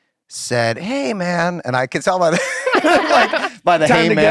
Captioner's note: laughter